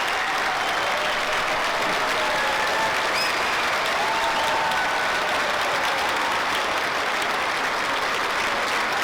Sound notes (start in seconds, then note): 3.0 applause; 3.0 cheering